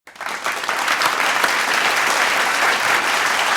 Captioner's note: applause